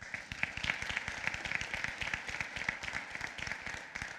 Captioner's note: applause